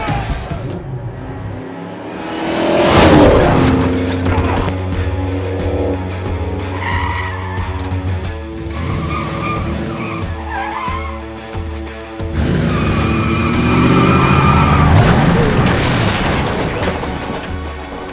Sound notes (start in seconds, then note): 0.8 car engine revving; 3.2 Dalton groans; 5.9 intense music; 8.8 tires screeching; 14.7 car engine revving